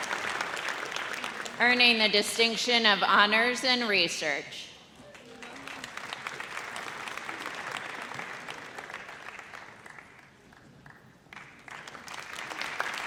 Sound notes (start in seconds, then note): 5.0 audience applauds